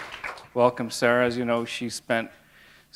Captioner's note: applause